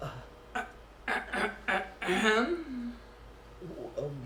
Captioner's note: clears throat not at all subtly